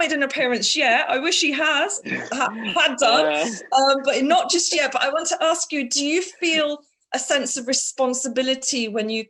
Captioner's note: laughter